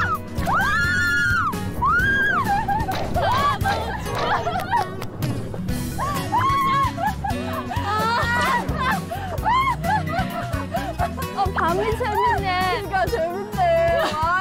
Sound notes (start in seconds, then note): 8.5 baby beasts can't stop laughing